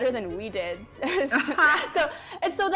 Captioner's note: laughs